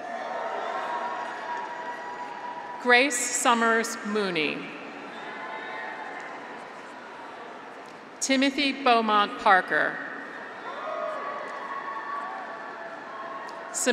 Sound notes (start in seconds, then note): 0.0 graduates cheer; 0.3 audience applauds; 4.8 graduates cheer; 10.2 graduates cheer